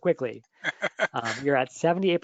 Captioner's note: laughs